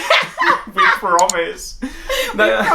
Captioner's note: laugh